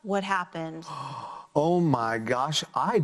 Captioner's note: gasps